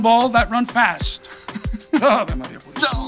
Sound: laughing

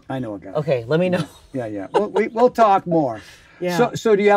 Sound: laughs

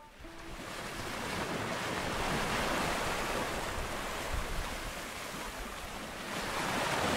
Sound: water sloshes; wind whistles

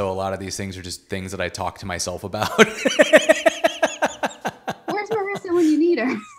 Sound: laughs

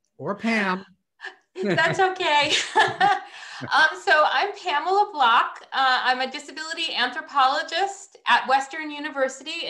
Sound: laughter

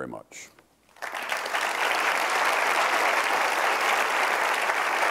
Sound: crowd applauding

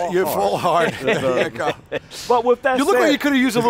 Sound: laughter

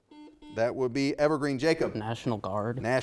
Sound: buzzer beeping

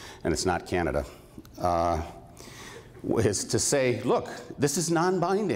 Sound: chuckles

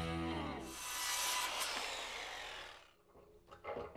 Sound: saw buzzing

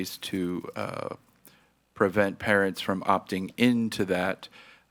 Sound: none

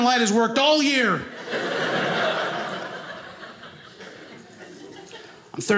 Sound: audience laughing

